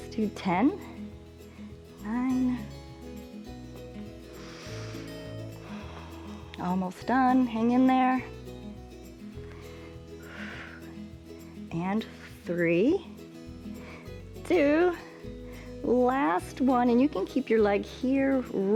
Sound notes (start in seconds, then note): 4.2 inhales and exhales; 9.4 exhales